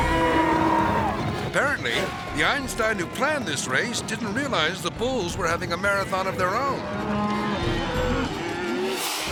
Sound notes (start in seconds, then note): 0.0 cows mooing; 0.0 people yelling; 6.8 cows mooing